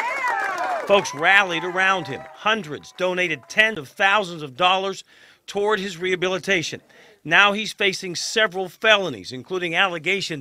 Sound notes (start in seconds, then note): 3.7 applause